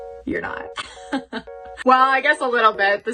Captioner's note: laughs